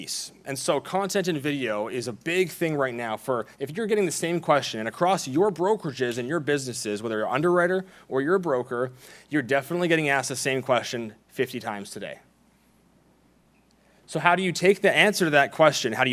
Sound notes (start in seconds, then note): none